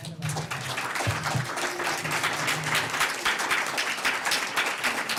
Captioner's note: audience applauding